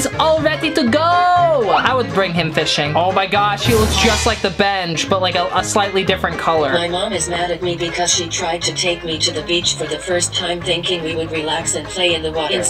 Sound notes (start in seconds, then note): 7.0 robot Voice